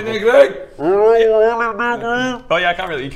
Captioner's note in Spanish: muy ahogado